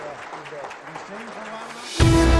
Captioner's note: applause